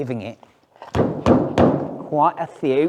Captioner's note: fist thumps